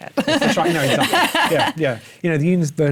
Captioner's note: laughs